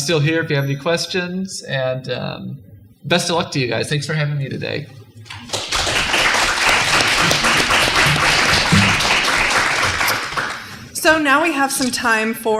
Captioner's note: clapping